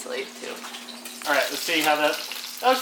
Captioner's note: sizzling noises